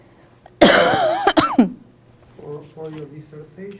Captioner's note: coughs